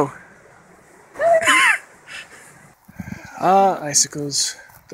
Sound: laughs

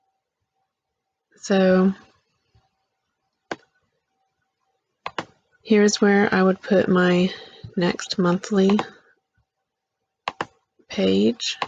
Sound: click

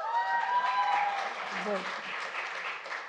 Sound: applause

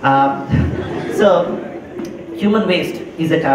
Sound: laugher

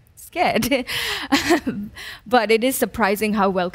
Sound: laughs

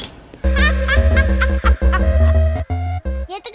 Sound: laughs

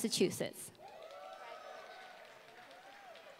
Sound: applause

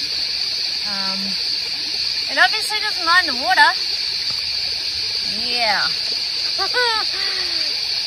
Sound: laughs nervously

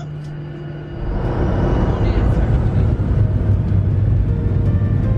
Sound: airplane roars

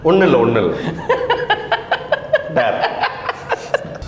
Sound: laughs

